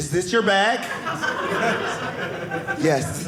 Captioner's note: audience laughing